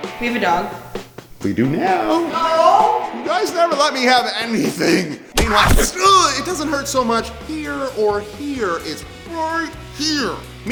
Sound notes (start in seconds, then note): 5.3 bow shoots an arrow